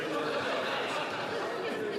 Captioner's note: chatter; laughter